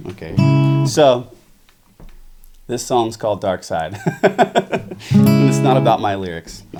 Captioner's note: laughs